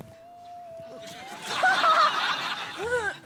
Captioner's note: laughs